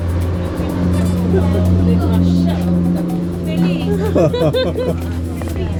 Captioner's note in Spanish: Risas